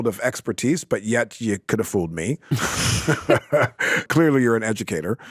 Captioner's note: laughs